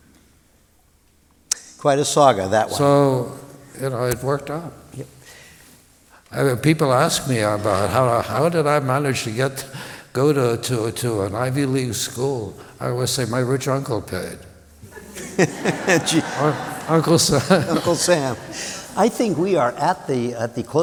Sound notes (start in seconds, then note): 14.8 laughter